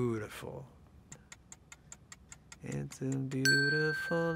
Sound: timer clicking

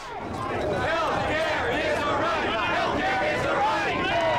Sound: activists chanting; chanting and yelling; cheering and yelling

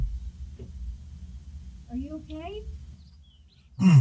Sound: moaning

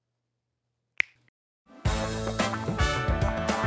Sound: snaps

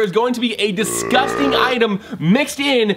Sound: burping

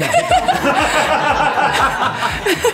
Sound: laughter

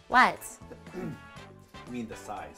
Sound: clears throat

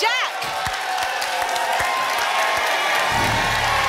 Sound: applause and cheering cont

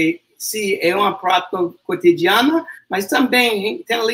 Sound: speaks portuguese

